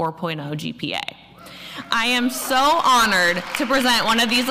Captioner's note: applause